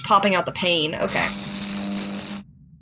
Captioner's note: electricity Buzzing